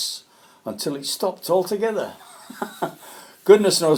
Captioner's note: laughs